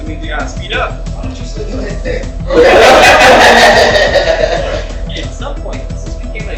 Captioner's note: laughing